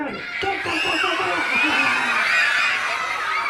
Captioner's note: children screaming